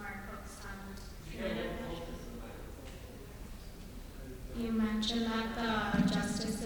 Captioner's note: off microphone